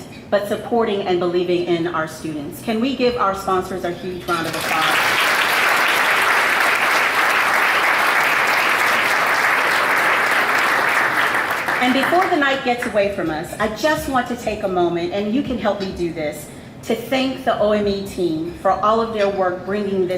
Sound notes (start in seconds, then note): 4.6 audience applauds